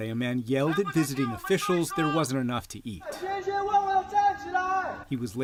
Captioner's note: shouting